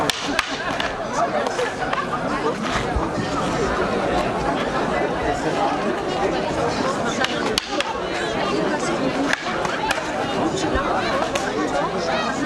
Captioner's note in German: Kampfgeräusche